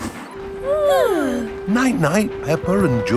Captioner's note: both yawning